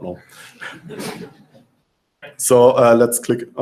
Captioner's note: laughter